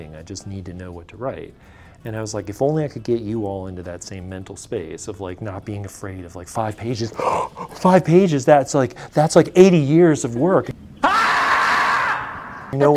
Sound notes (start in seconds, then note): 7.1 gasps; 11.0 animal shrieking